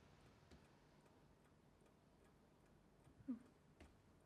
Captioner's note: clock ticking